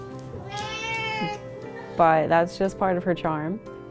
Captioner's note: cat meows